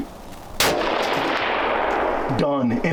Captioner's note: gunshot rings